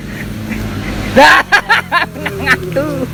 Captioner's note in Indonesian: ketawa